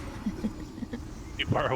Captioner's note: giggles